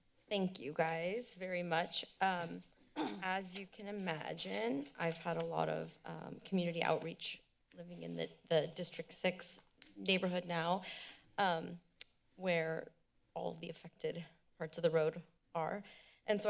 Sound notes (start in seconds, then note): 2.9 clears throat; 12.0 clicks tongue